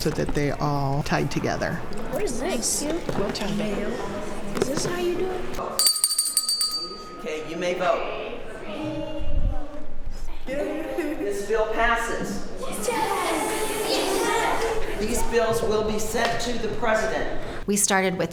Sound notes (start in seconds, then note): 7.5 bell ringing; 12.6 children cheering